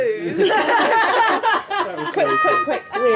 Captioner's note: laughing